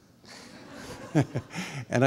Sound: laughing

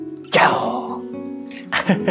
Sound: lion roar in Japanese

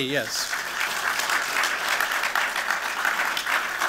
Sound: applause

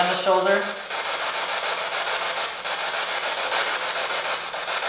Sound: static

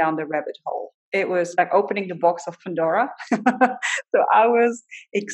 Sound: laughs

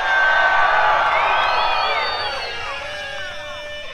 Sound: crowd cheering

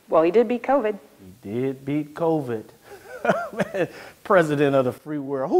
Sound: chuckles

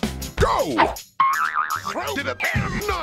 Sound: boioioioioing

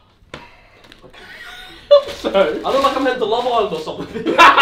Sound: laughs

